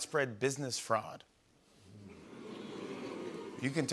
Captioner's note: audience oohs